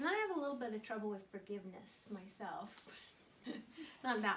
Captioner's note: laughter